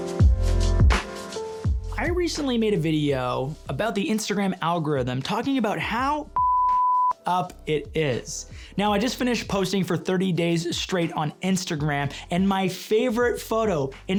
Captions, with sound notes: I recently made a video about the Instagram algorithm, talking about how (beep) it is. Now I just finished posting for 30 days straight on Instagram, and my favorite photo,